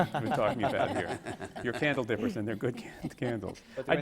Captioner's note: laughter